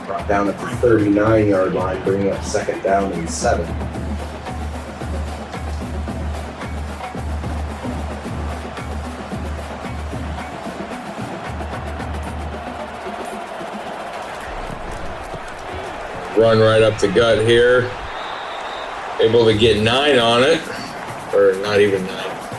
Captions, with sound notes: Brought down at the 39 yard line, bringing up second down and seven. [Crowd Noises] Run right up the gut here, able to get nine on it, or not even nine.